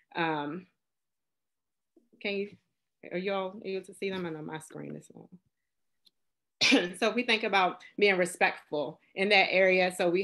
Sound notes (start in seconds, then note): 6.6 coughs